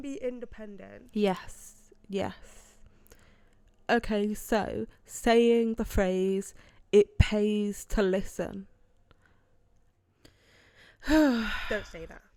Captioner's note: sighs